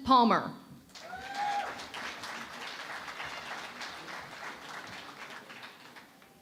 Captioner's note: cheering and Applause